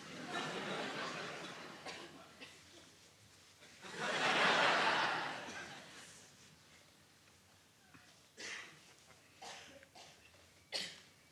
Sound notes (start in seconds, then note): 0.0 audience chuckling; 3.8 audience laughing